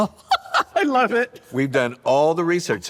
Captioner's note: laughs